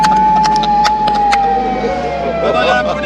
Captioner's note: laughter